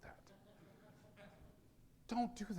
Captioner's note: audience laughing